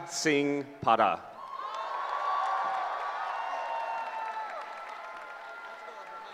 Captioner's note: cheering